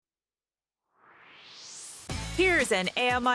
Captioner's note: swoosh